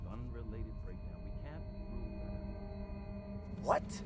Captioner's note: voice fades out